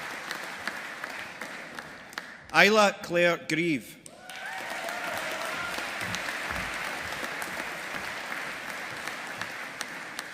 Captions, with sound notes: Isla Claire Grieve. (AUDIENCE APPLAUDING)